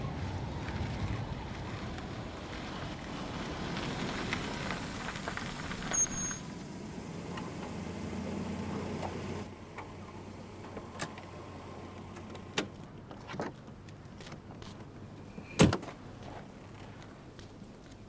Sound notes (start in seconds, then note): 5.7 car stops; 12.2 car door opens; 15.5 car door closes